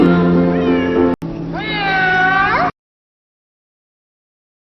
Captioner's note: miaow